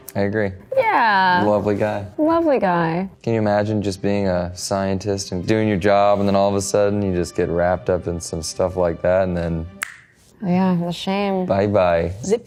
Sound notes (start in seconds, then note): 9.8 snaps fingers